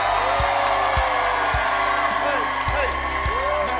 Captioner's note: cheering